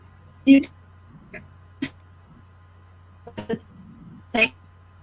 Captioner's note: murmuring